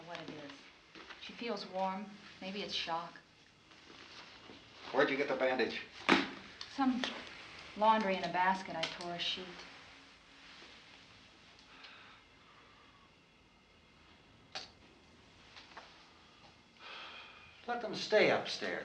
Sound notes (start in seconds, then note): none